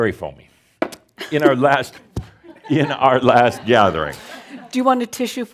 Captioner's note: a few chuckles